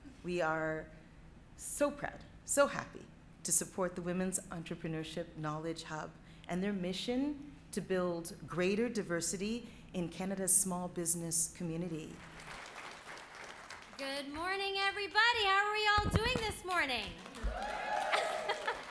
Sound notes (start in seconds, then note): 12.1 audience clapping; 16.2 audience clapping; 18.0 laughs